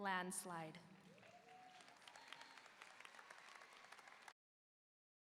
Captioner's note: audience applauding